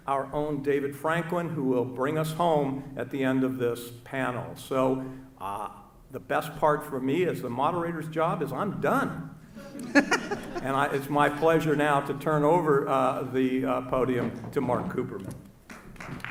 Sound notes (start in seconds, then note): 9.6 loud laughter; 15.6 audience clapping